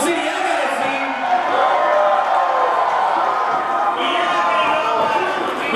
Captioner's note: audience cheering